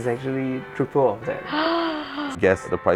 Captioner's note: gasp